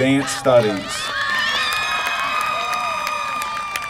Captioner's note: applause